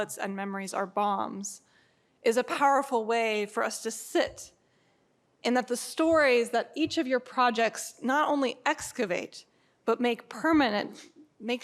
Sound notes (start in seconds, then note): none